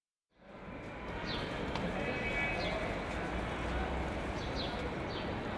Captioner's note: urban noises